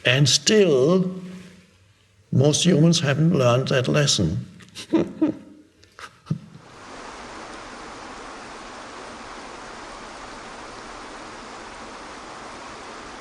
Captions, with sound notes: And still most humans haven't learned that lesson. (chuckles) (waterfall rushes)